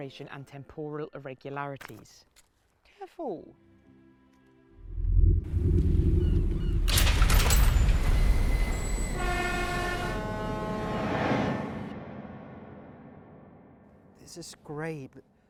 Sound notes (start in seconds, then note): 5.8 birds chirping; 8.3 train hissing